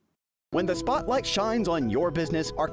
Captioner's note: voiceover